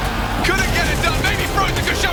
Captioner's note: gun firing